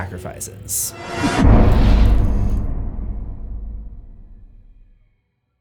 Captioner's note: impact